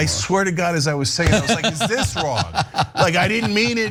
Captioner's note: laugh